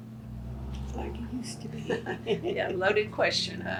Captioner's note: laughs